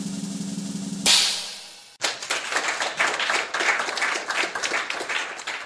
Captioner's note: drumroll; applause